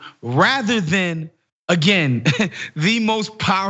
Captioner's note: laugh